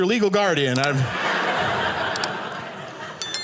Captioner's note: audience laughing